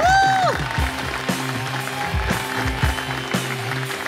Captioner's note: Audience clapping